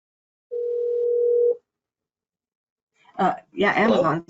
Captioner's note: phone ringing